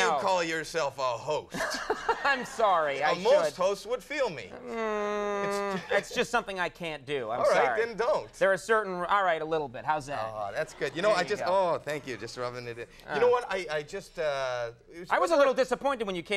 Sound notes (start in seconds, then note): 1.5 Conan chuckling